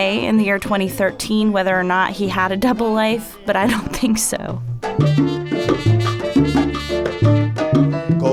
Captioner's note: laughs